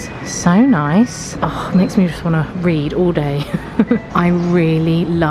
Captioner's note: laughs